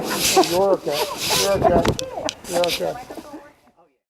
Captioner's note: laughter